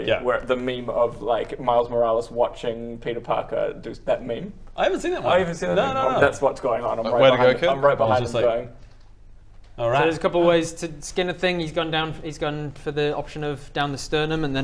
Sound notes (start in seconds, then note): none